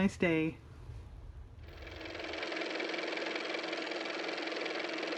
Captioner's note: car motor